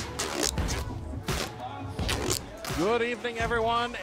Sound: tape unwinding

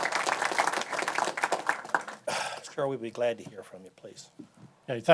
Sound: applause

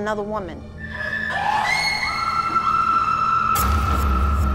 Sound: screaming

